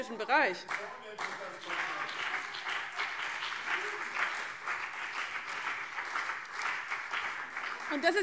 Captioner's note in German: Beifall CDU und BÜNDNIS 90/DIE GRÜNEN